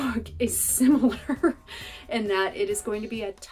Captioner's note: laughter